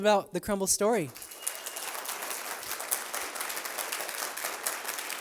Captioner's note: applause